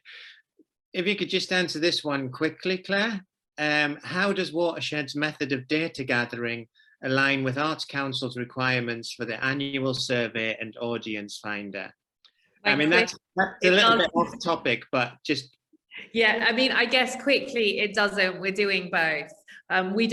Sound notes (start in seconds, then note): 13.4 everybody talking at once